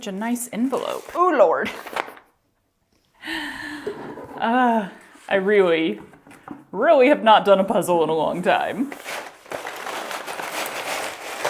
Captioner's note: soft clatter